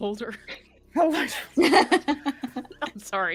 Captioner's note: all laughing